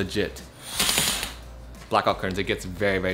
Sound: curtains swishing

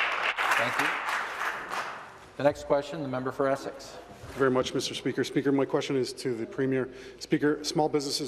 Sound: some Applause

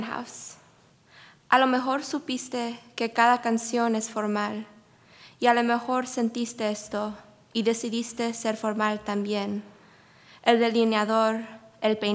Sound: speaking spanish

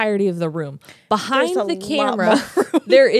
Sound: laughs

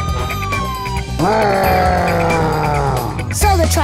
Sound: roaring

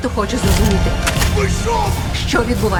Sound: guns cocking

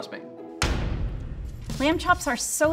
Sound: booming sound

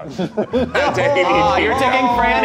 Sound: laughing

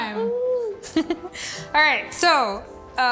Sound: chuckling

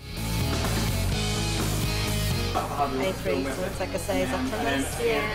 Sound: loud chatter

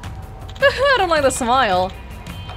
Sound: chuckles

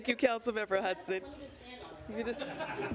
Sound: laughter

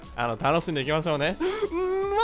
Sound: inhales

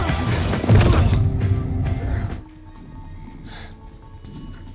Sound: butcher thuds

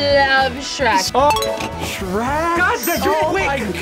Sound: bell dings

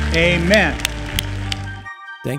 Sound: applause

